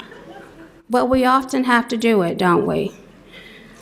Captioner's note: laughter